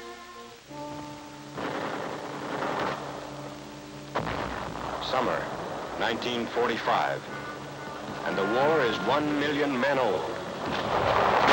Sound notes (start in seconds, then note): 1.5 bombs exploding and artillery fire sounds; 10.6 machine gun fire in bursts